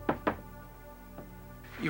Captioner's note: knock on door